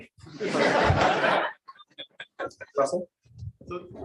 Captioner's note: laughter